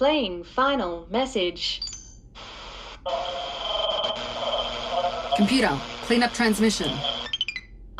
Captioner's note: the message plays as a scramble of interference